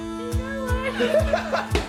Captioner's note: speaking Korean; laughs; laughs and giggles